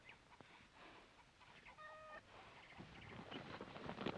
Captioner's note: chickens cluck